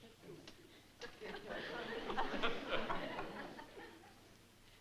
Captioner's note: laughter